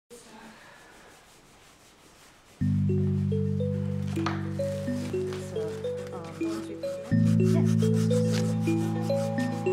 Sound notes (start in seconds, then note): 5.9 cutting into material, sanding sounds